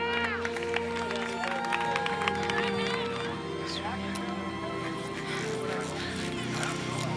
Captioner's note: fans cheer